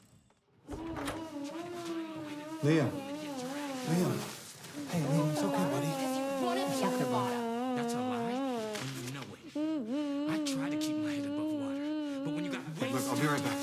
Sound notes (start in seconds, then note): 0.7 Liam groaning; 1.0 Rome shouting